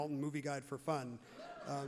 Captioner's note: crowd laughs loudly